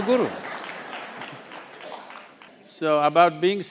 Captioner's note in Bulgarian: Смях